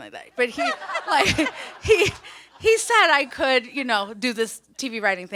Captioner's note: panelist & audience laughs